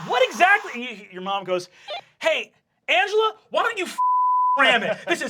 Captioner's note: beep